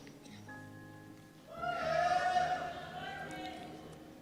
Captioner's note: cheers